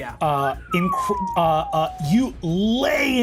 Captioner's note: whistles